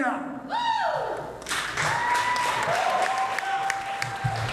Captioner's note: cheering, applause